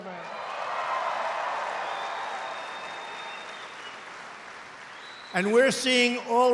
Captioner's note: applause